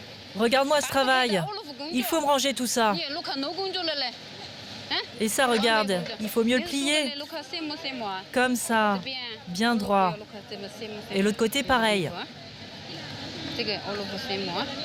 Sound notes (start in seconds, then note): 0.9 woman speaking foreign language